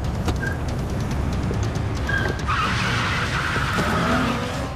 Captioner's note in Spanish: Chirrido de llantas